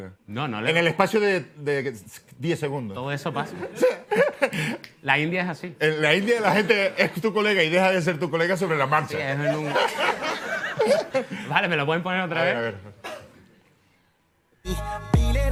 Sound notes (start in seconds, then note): 3.4 laughs; 9.3 laughter